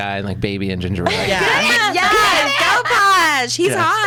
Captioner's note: laughs